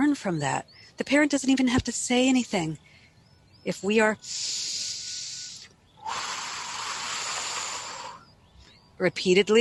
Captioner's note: breathing deeply, long exhale